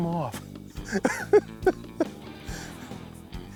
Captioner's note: laughs